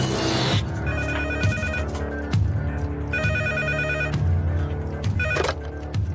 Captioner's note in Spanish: Teléfono sonando